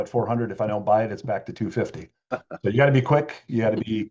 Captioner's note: laughs